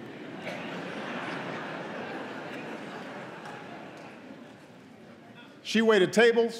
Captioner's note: laughter